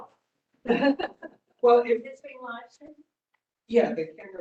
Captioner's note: laugh